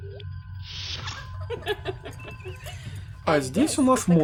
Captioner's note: laughter